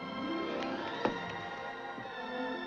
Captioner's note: thunk